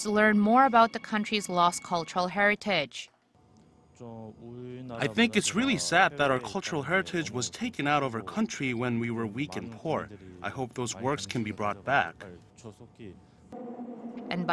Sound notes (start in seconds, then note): 3.5 Korean